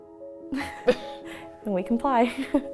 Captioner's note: laughing